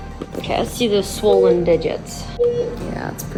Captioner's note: machine beeping